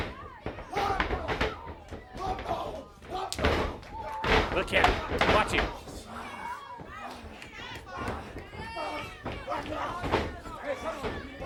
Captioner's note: crowd chatter